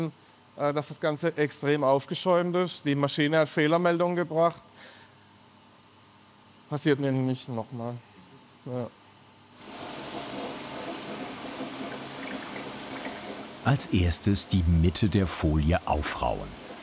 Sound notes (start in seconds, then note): 9.7 sound of water